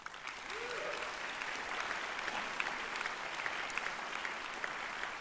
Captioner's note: applause